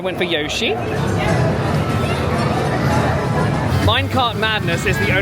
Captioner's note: people chatter; video game music plays